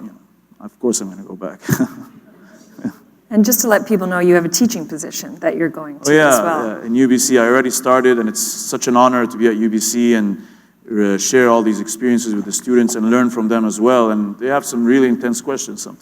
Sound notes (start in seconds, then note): 1.6 laughter